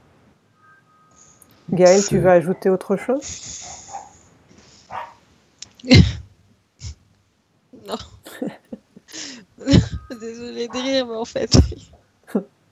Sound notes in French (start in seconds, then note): 3.4 rires